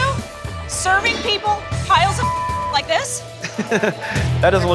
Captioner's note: beep